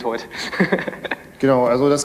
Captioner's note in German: lacht